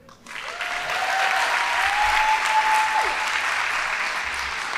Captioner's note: audience applauding